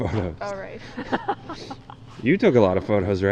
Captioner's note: laughs